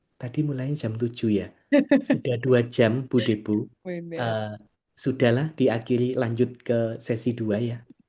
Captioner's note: tertawa